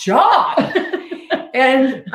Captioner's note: laughing